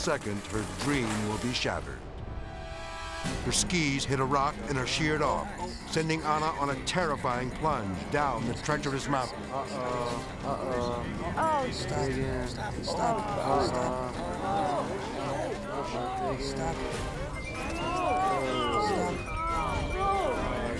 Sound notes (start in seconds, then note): 2.2 edgy dramatic music; 14.3 onlookers gasping; 17.5 onlookers gasping